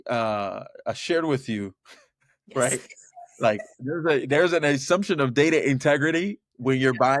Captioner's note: laughs